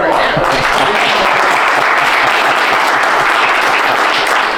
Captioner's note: applause